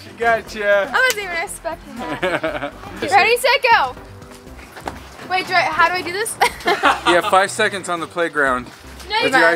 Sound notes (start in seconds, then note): 1.9 laughs